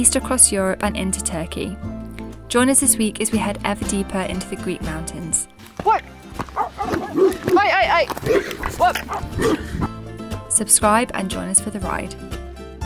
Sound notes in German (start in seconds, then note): 6.4 Hunde bellen